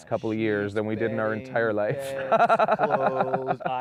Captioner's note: laughs